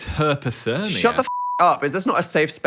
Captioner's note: beep